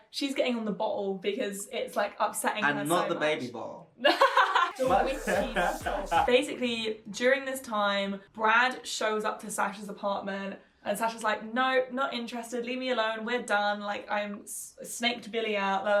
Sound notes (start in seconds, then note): 4.0 laughing